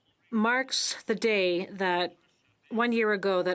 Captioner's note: speaking French